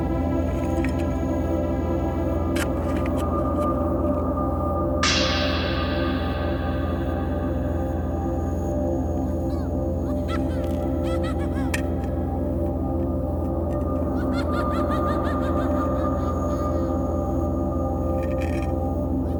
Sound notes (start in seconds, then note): 5.1 intense music; 9.3 creepy laughing